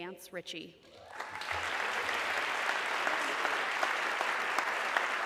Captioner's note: audience clapping